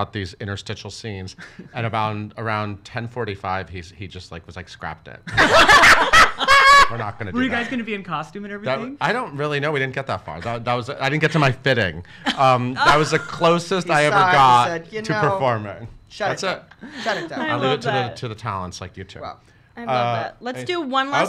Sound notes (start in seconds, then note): 5.3 laughs